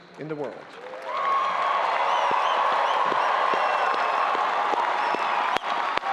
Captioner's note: audience applauding and cheering